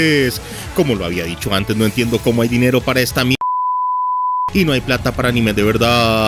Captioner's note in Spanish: sonido de censura